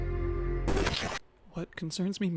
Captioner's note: radio static